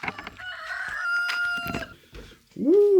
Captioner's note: bird cawing